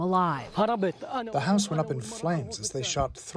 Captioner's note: through translator